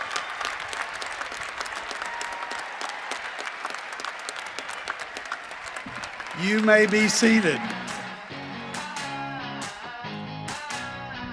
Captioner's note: cheering and applause